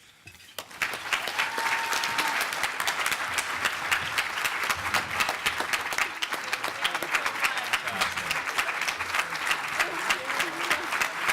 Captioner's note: clapping